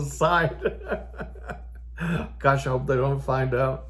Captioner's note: old Man laughing